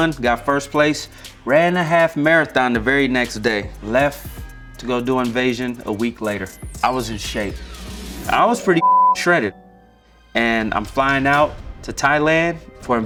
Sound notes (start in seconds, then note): 8.3 beep